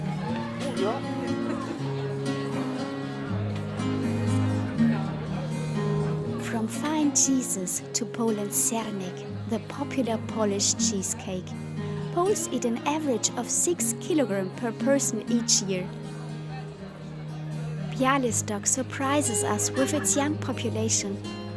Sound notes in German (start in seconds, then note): 3.7 undeutliches Gerede